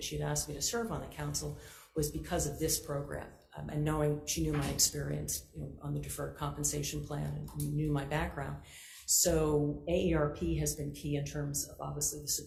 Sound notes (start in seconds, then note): none